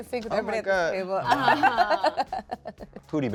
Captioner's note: laughs